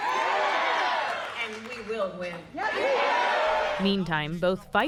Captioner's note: cheering